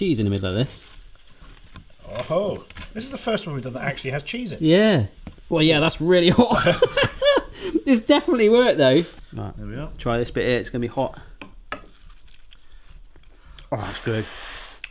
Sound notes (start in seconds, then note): 6.4 laughing